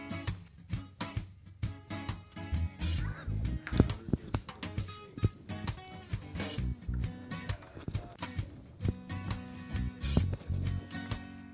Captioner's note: talking about coffee